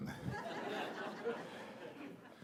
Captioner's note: laughter